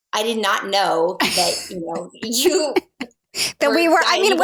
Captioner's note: laughing